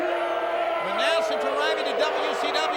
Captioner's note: Vader yelling